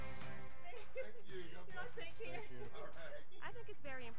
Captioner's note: laughing